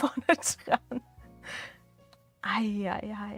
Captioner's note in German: Gelächter